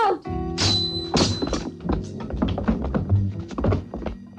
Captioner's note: clinking